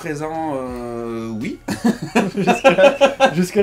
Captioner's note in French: rires